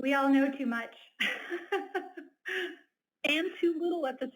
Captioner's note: laughs